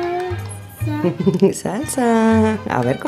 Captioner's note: laugh